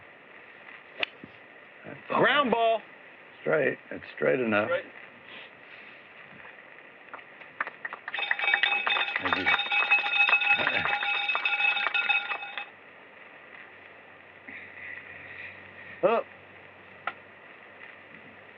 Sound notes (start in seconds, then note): 7.4 applause; 8.1 cowbell ringing